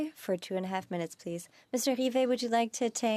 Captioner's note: speaking French